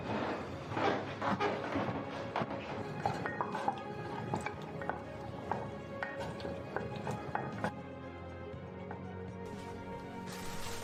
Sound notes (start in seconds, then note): 2.7 spoon hitting pot